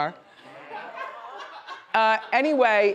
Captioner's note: audience laughs